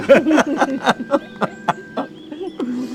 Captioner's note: both laughing